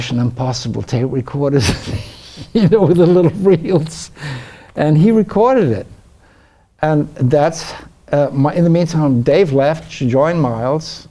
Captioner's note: laughs